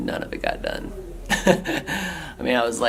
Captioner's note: laughter